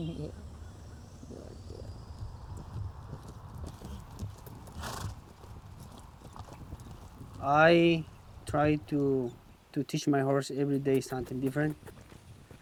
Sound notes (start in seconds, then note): 4.6 horse chuffs